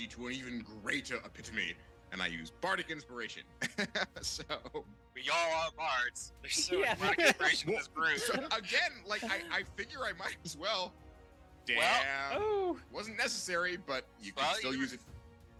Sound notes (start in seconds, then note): 3.8 laughing